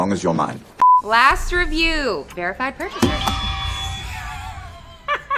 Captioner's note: beep; fake children cheer; laughs